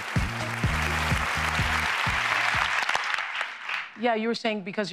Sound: applause

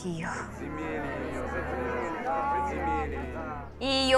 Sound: approving shouting

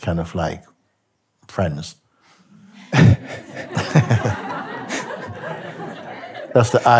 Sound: laughter

